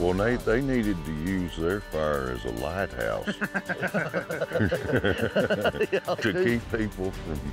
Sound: laughter

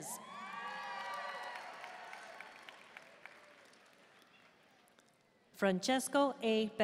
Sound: audience cheering and applauding

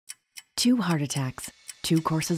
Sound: voiceover

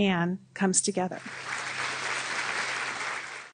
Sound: audience applauds

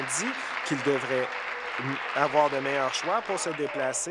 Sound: applause

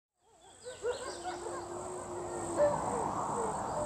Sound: wolves howling; wind blowing

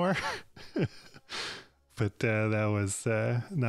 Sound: laughs

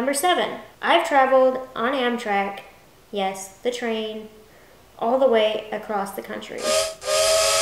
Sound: choo-choo sound

